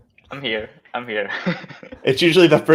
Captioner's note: laughs